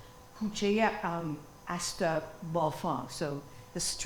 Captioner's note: speaking foreign language